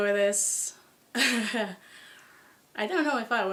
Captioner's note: laughter